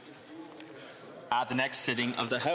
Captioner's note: speaking French